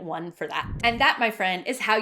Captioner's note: swishing